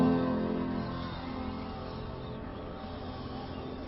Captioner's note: people shushing